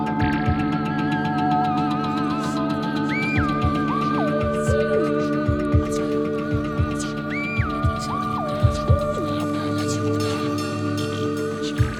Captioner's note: unintelligible Martian Language